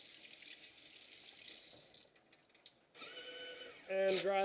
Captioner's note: paper Towel Dispenser Sounds